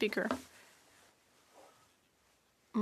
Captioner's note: speaking French